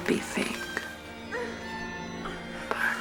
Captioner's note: sexual moaning